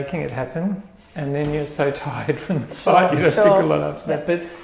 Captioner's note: laugh